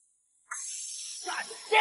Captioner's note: tire hissing